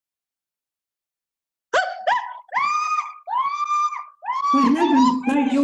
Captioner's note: screams